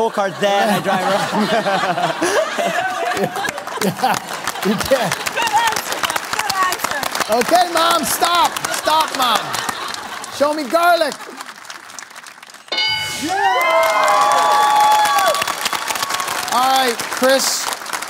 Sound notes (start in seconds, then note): 3.7 laughter; 12.7 bell dings; 15.2 cheering